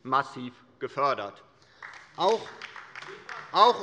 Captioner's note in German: Beifall der Abg